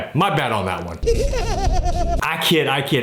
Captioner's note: evil laughing